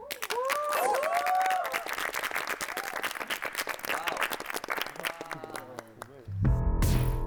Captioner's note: everyone applauds performance